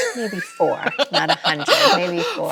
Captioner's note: Chloe laughs